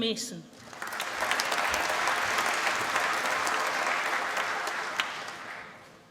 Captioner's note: applause